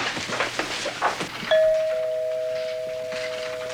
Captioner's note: doorbell ringing